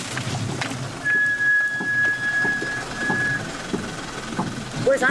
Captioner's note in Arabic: صرير الفرامل